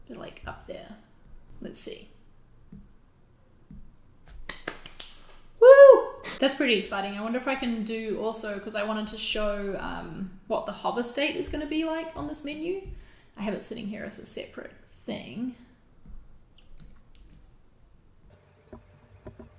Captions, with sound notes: Like up there, lets see. (Clapping) Woo! That's pretty exciting I wonder if I can do, also, how to show, um, the hover-state is gonna be like on this menu? I have it sitting here as a separate thing.